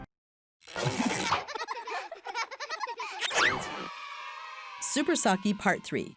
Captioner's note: children laughing